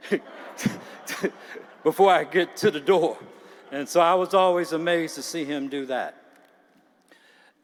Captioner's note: laughter